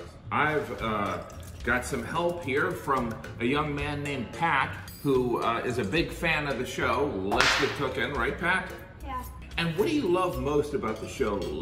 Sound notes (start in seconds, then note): 7.3 whip cracking